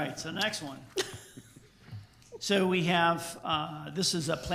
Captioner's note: woman laughs